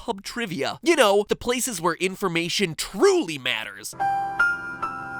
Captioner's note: sarcasm; soft piano